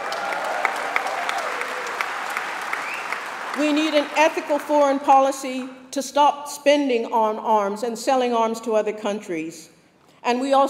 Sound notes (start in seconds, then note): 3.7 applause